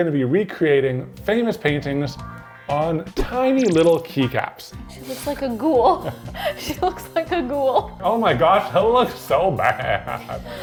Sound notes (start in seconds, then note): 4.1 upbeat music; 5.8 chuckles